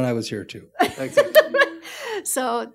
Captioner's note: laughs